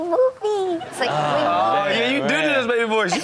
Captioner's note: audience laughs